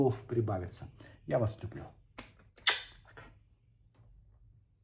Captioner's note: lips smack